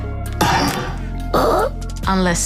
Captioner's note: grunts breathily